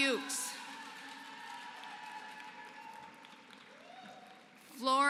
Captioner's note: applause